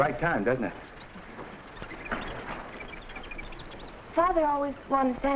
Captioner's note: animals chattering